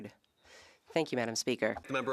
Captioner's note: speaking French